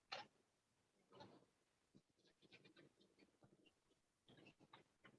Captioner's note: typing